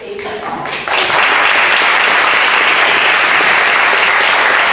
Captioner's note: audience applauds